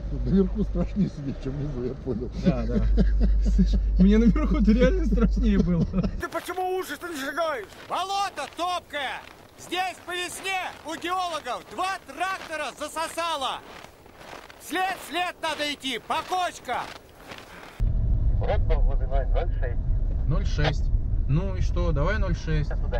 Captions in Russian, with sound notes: Тут, наверху, страшней сидеть. Чем внизу. Я понял. Да. (смеются) Слышишь. Ну на верху-то реально страшнее было(смеются) кадры из фильма "Особенности национальной охоты" След в след надо идти. По кочкам. Брод тут есть - 0,6 0,6! Ну. И что? Давай 0,6.